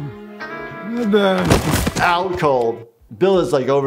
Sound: Bill thudding

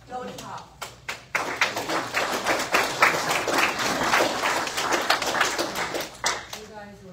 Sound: audience applauds

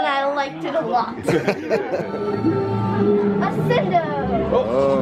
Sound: laughter

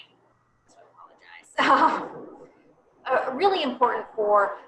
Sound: laughter

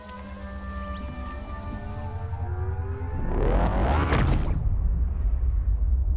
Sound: electrical buzzing building up

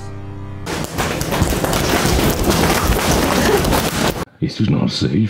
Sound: very loud ball noises

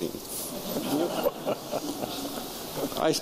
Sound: laughter

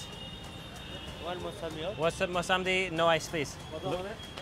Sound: speaking foreign language

